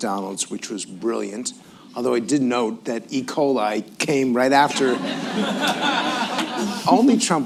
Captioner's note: laughter